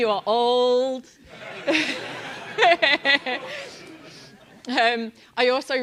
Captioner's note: laugh